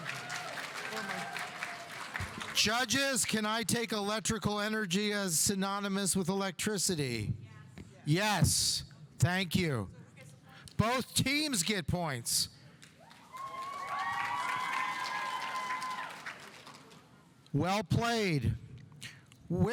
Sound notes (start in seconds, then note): 13.0 audience applauding; 13.1 audience cheering